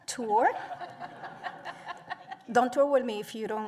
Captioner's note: laughter